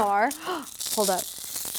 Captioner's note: gasps